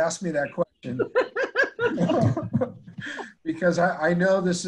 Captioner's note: laughing